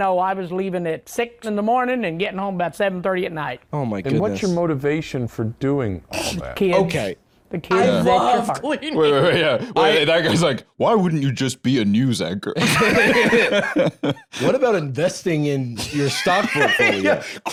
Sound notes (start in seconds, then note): 12.6 both laughing